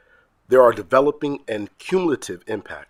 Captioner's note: none